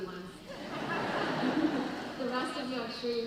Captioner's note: audience laughing